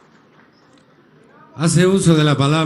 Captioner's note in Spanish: aplausos